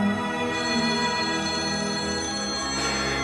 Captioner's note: Cellphone rings